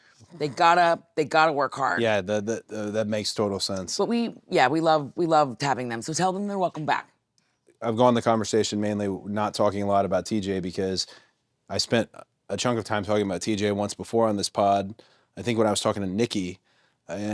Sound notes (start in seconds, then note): none